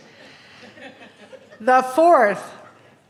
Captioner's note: laughing